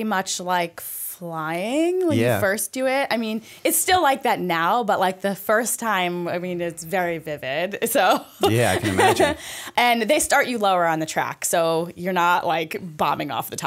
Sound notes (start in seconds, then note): 8.4 chuckle